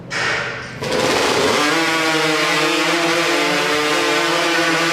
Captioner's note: chainsaw engines rev